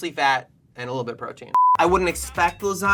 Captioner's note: electronic bleeps